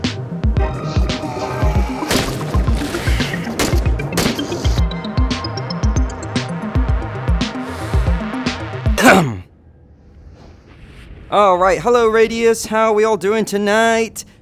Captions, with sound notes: *cough* Alright! Hello radius! How are we all doing tonight?